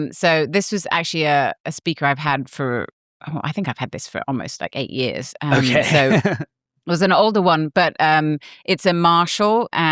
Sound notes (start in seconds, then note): 5.5 laughs